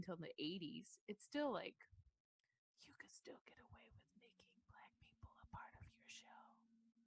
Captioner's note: whispers